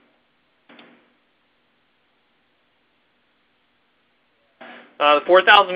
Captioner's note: pause